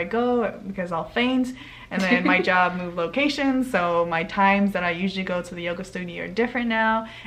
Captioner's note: laughs